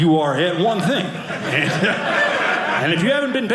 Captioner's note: audience laughing